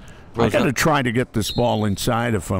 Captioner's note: referee blows whistle